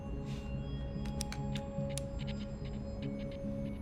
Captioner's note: flicking switch